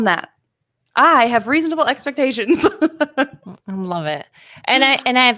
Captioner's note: laughs